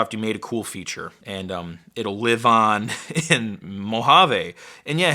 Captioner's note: chuckles